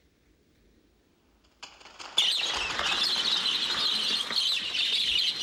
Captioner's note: bats screeching